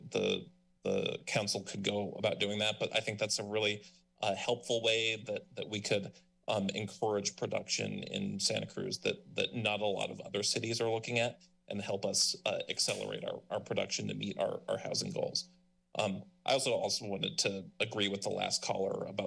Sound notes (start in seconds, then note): none